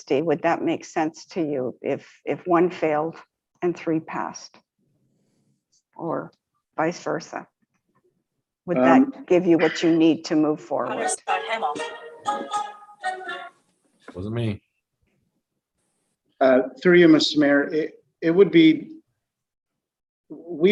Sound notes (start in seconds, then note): 11.8 phone rings